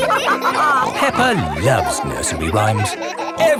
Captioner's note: all laughing